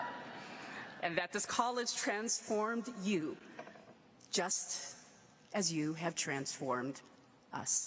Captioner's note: laughter